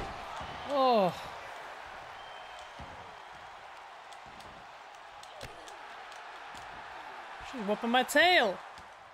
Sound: applause

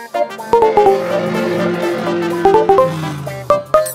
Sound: car engine revving

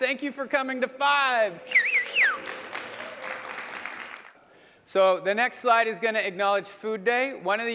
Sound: applause

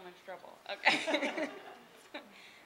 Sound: laughing

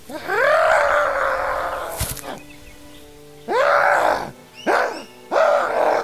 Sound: yelling

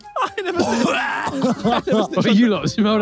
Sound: Simon retching and laughing

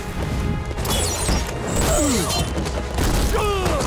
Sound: groaning

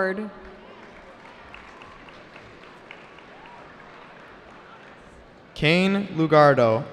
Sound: cheering

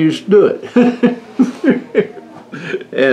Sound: laughter

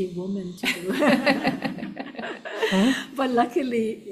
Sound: laughing; audience laughing

